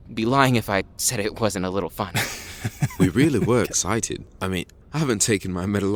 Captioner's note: laughs